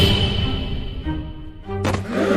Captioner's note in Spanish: Quejido